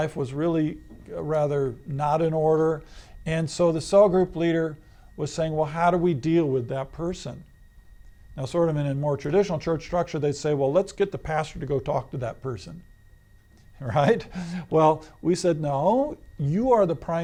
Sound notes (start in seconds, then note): 13.8 laughs